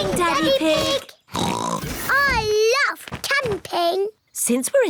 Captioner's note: oinks